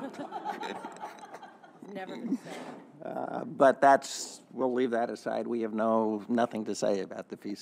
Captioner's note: laughter